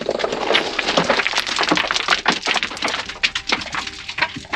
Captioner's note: rocks clanking